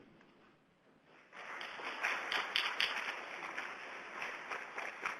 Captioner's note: audience applauds